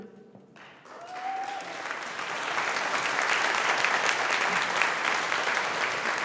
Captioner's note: audience applauding